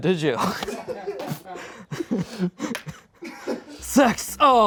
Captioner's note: and crew laugh